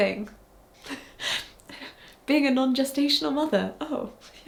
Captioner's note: chuckles